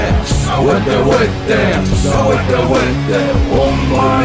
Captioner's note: non-english speech